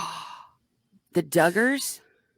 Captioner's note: gasp